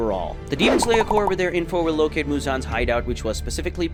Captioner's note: normal tone